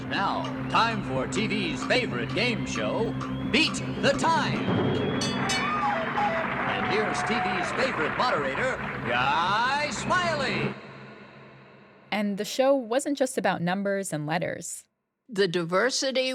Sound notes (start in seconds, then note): 0.0 soundbite of tv show, "sesame street"; 4.7 soundbite of bell